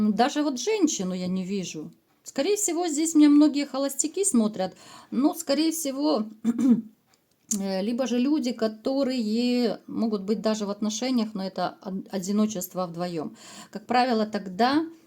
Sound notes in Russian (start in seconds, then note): 6.4 откашливается